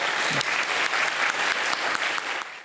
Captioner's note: audience clapping